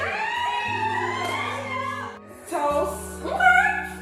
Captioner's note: all squealing